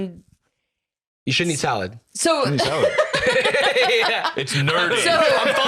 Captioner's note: laughs